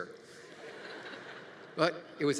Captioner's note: audience laughing